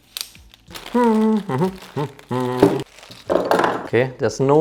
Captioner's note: upbeat humming